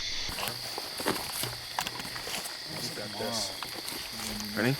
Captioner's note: insects chirp